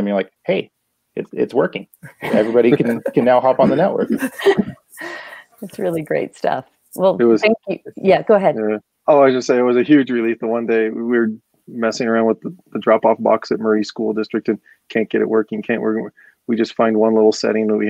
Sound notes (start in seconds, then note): 5.6 laughter